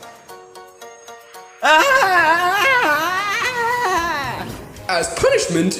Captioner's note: Fuu2 yells